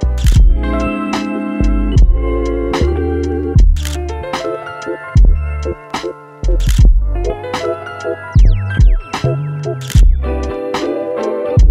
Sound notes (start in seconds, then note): 0.1 camera shutter clicks; 3.8 camera shutter clicks; 6.6 camera shutter clicks; 9.8 camera shutter clicks